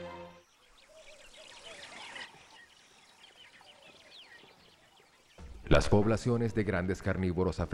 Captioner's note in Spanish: sonidos selváticos